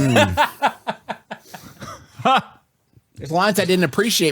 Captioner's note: laughs